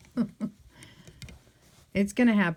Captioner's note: laughs